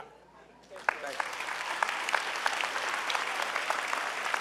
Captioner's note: clapping